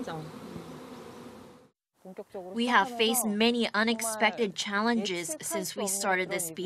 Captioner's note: Korean